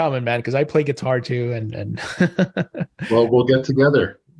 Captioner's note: laughs